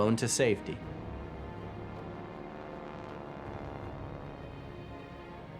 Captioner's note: plane engine roaring